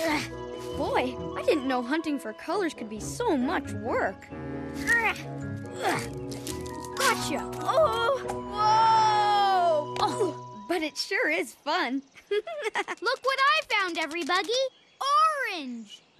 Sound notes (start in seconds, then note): 5.8 effort grunts; 12.2 giggles